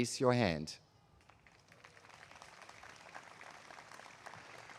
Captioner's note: applause